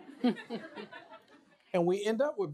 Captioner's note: laughter